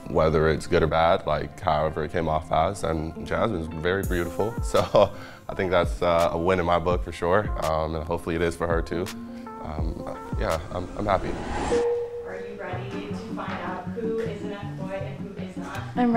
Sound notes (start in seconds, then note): 5.1 laughs